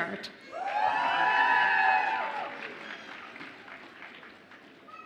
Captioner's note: audience applauds and cheers